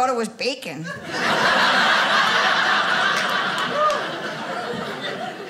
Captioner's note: audience laughing